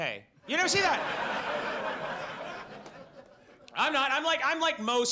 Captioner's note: audience laughs